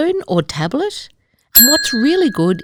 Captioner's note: bell rings